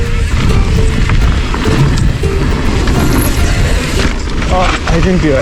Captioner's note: tires crushing dirt; tires running along planks